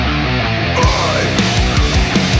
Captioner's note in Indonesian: scream